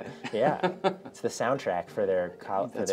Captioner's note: laughter